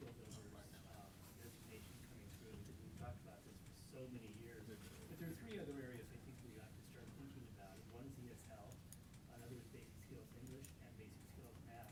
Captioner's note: off mic